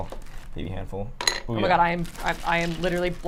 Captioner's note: ice clinking